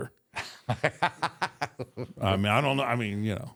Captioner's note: Michael laughs